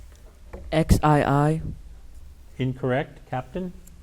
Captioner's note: none